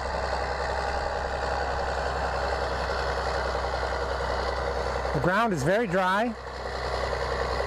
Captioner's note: diesel engine sound